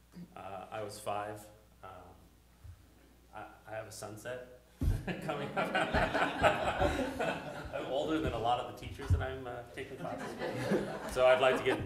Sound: laughter

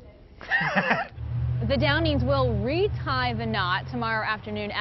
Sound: laughs

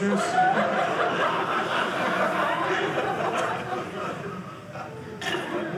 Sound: audience laughing

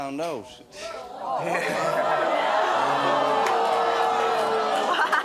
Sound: audience booing

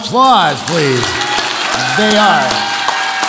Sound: audience applauds

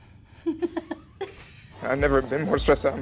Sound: laughing

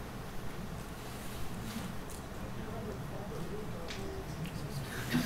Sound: soft chatter

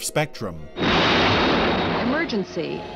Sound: jet engines blasting

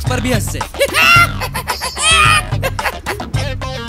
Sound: hyena's laugh

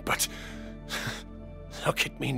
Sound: sigh

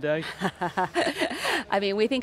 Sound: laughing

